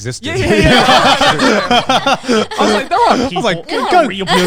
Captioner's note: everyone laughing